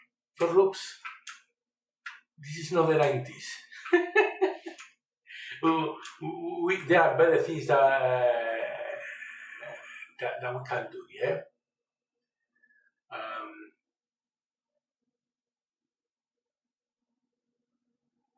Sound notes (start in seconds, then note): 3.6 laughter